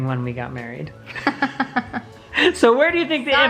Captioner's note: laughing